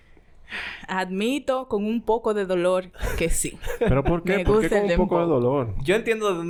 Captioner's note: laughs